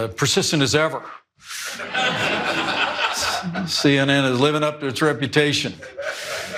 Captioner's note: laugh